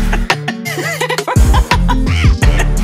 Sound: gasp

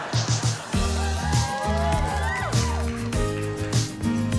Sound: audience cheering

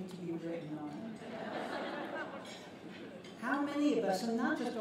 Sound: laughter

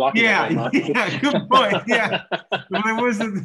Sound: laughing

